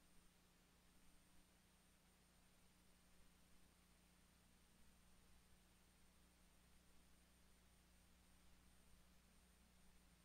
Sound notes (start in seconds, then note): none